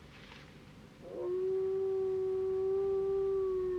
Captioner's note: howling